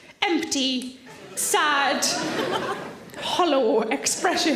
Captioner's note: audience laughing